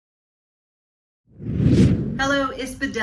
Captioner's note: air whooshing